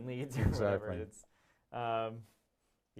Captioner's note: laughs